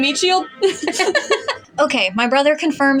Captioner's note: laugh; giggle; chuckle